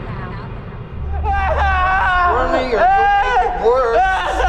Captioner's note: yelling; yelling